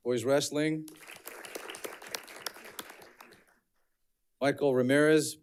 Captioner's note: audience clapping